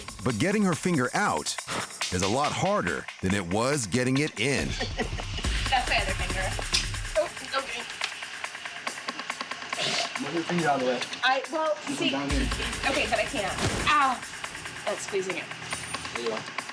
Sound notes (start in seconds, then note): 3.8 laughs; 6.7 snaps